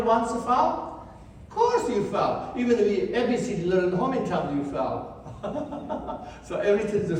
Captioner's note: laughs